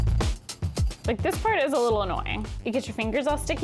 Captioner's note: garlic clinking; light music